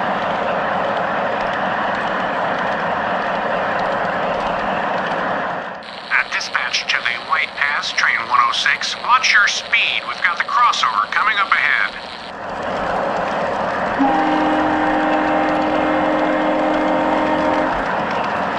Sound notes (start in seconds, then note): 5.8 message on the radio; 13.9 train horn